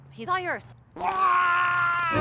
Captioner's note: taser buzz